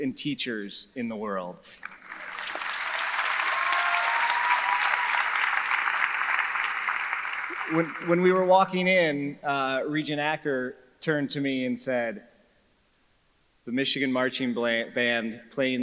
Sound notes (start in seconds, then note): 1.8 audience applauding; 1.8 audience cheering